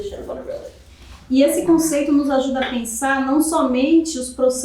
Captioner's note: speaking portuguese